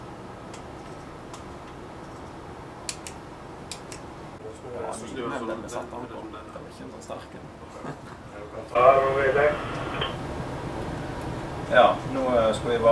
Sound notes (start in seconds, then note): 5.0 chatting; 9.0 in Norwegian, over the radio